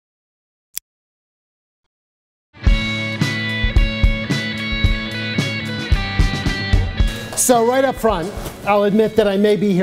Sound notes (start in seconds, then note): 0.9 click; 2.6 guitar music plays